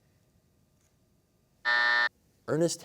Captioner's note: buzzer